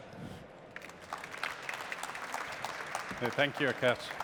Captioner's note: applause